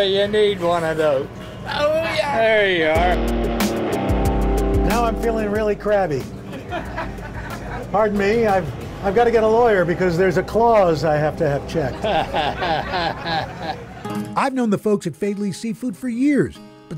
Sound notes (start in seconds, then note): 11.8 chuckles